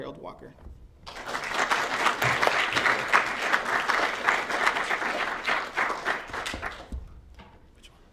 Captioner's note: applause